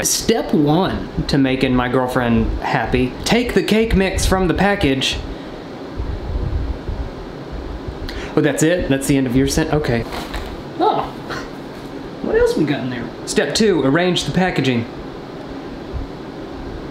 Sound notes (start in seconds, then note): 10.0 cracking